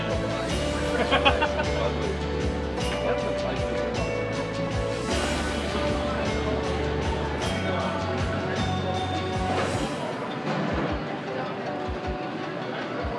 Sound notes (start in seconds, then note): 1.3 people chatter